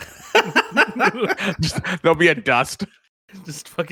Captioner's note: laughs